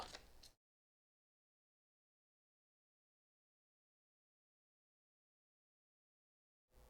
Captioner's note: deafening silence